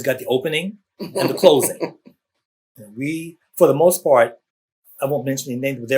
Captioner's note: laughter